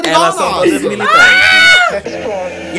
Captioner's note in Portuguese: grito